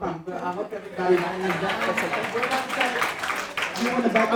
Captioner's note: audience applauding